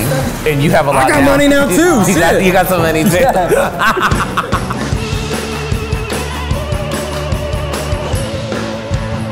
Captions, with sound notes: - I got money now too, shit. - You got some money too? ( laughs) ( rock music plays)